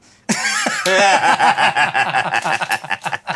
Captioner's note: laughing